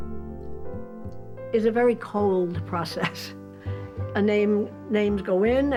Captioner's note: chuckles